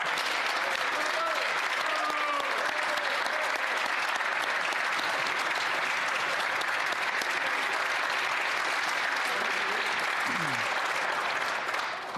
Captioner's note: applause